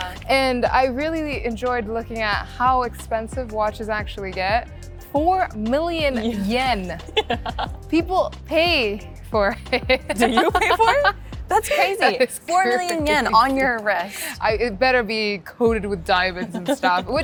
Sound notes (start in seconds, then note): 9.8 laughs